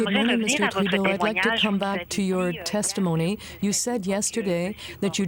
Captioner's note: speaking French